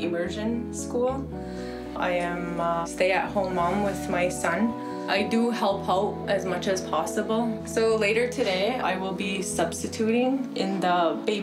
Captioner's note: speaking native language